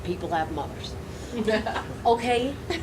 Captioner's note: laughing